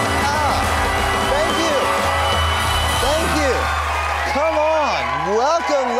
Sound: applause continues

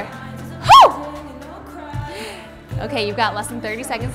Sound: hoots

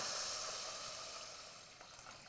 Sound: sizzling

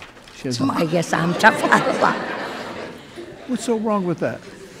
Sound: people laughing

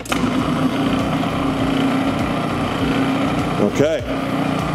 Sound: blender whirring

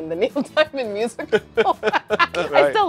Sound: laughter

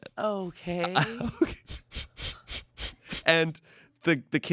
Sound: laughs

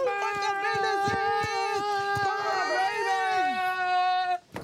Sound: both shouting

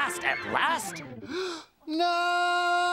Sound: gasps

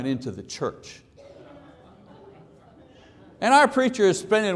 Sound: audience laughs

